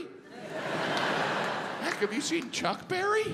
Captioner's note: audience laughs